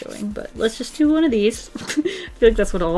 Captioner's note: laughs